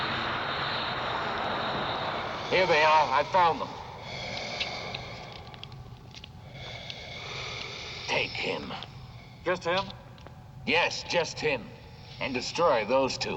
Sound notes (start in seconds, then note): 4.1 breathing heavily